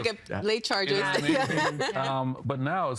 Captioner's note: laughing